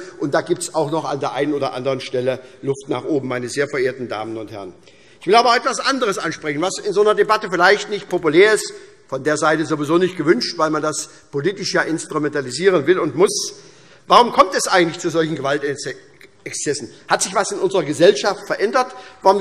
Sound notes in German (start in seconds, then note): none